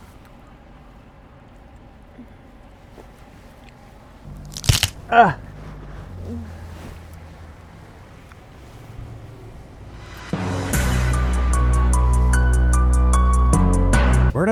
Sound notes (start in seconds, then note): 4.4 cracking Bone; 6.6 dramatic Music